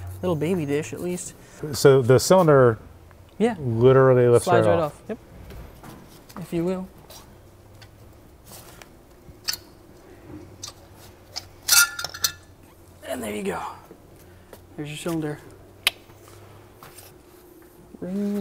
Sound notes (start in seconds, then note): 9.5 metal clanking; 16.6 clicks tongues